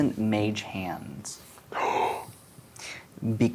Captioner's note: gasps